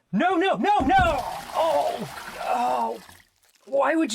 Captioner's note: heavy thud, wet sounds